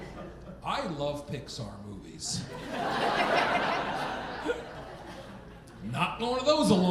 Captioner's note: audience laughing